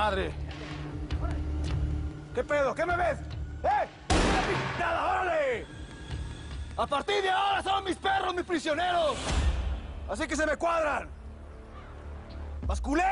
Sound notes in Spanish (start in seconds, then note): 4.1 Disparos